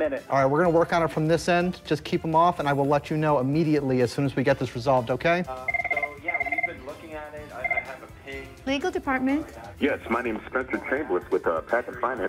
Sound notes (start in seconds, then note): 5.6 phone ringing